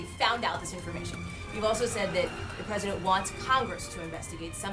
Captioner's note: laugh track